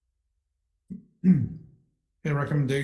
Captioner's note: clearing throat